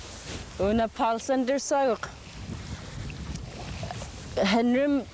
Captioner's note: speaking yupik; speaking yupik